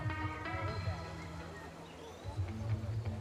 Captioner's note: birds chirping